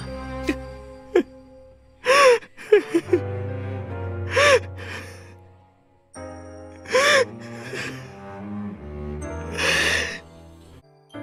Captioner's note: cries